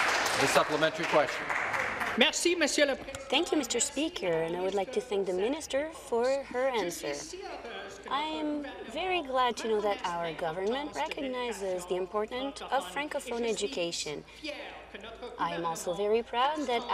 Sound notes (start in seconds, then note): 0.0 applause; 6.4 speaking in French